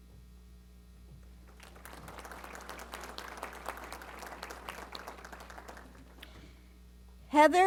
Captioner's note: applause